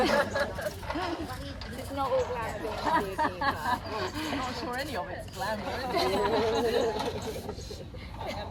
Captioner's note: laughter; laughter